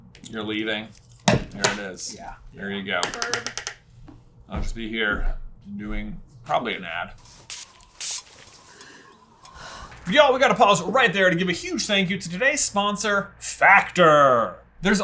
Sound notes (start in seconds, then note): none